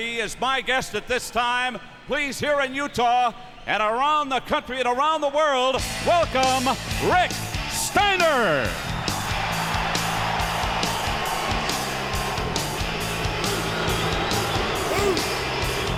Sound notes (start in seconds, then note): 8.2 rock music; 9.2 crowd cheering